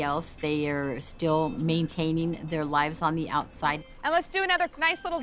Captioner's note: none